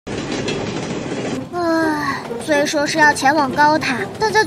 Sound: sigh

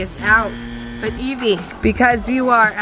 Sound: buzzer

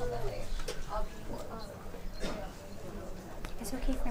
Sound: chattering

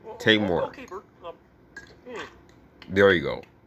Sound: lips smacking

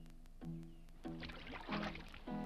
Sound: water splashes

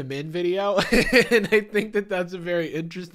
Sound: laughs

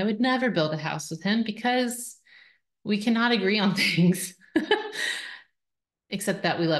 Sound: chuckles

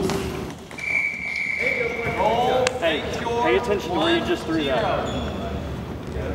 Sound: whistle

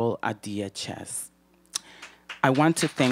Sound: applause

